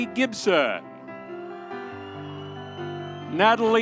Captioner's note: audience cheering